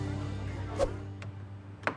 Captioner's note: gentle music; swoosh